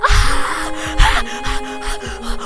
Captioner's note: screaming